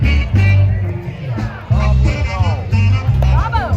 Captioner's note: crowd shouts "tequila!"